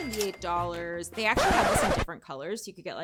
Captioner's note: cash register chiming; record scratching